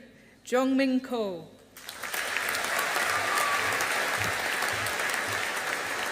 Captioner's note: audience applauding